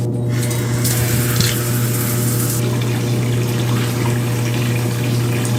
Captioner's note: shower water running